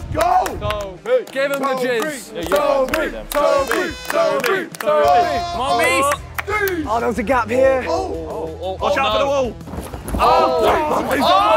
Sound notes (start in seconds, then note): 1.2 clapping; 3.1 horn blowing; 5.1 yelling; 10.2 contestants clapping and yelling